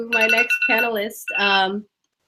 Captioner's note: alarm